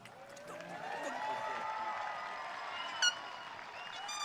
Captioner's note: audience cheering